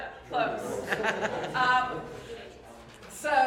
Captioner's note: laughter